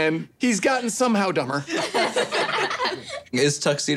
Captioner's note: laughing